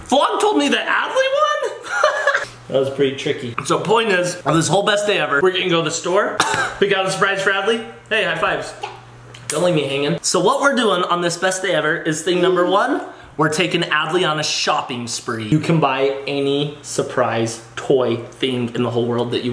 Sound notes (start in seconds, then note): 1.7 laughs; 6.3 coughs